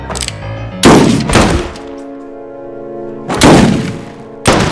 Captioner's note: guns firing